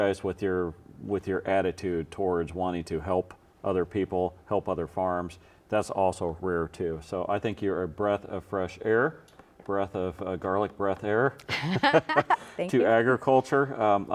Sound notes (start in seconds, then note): 9.6 laughs